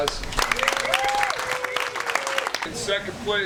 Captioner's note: applause